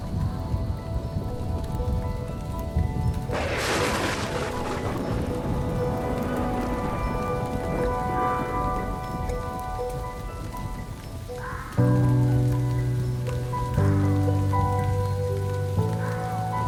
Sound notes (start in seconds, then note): 0.0 thunder crashing; 0.2 gentle orchestral music; 2.7 thunder crashing; 8.8 gentle orchestral music continues